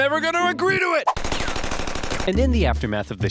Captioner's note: gunshots